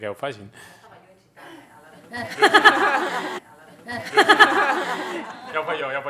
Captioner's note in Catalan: parla fora de micròfon; riures